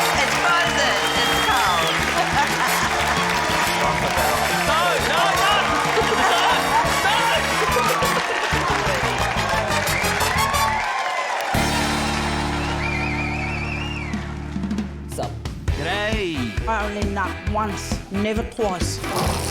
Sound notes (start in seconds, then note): 2.6 laughs; 5.6 laughter; 9.9 cheering, applause